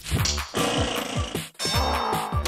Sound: machines whirring

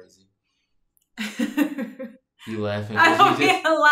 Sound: laughing

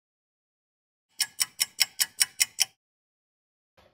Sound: sound of a ticking clock

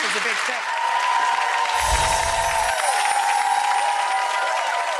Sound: audience cheering

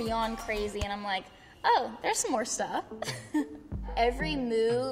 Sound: laughs

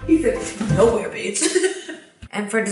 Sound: laughs

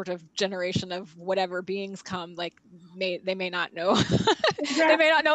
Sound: laughs

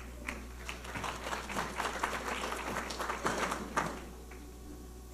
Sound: audience applauding

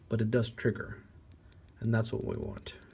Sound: click click

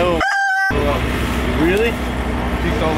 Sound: rooster sound

